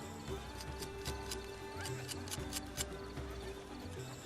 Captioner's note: bright music; knife scraping